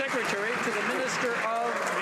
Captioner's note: some Applause